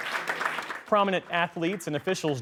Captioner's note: applause